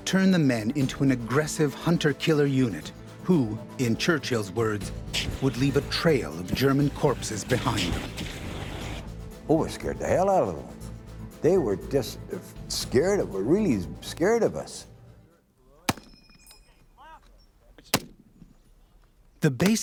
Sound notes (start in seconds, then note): 11.7 suppressed gunfire; 16.8 voiceover